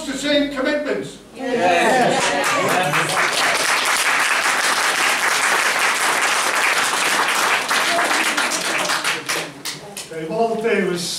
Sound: applause

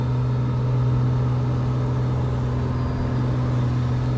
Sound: plane whirs

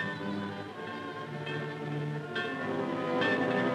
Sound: bell clanging

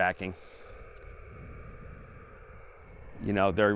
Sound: radio static crackling

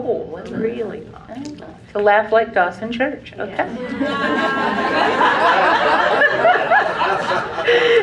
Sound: laugh

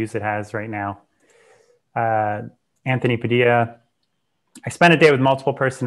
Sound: breath

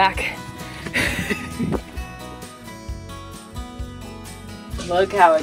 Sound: chuckles

